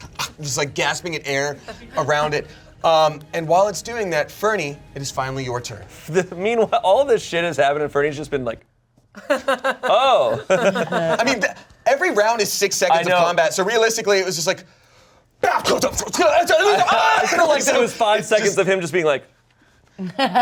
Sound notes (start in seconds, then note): 0.0 gasping; 9.2 laughing; 15.9 makes battle noises